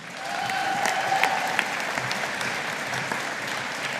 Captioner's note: audience applauding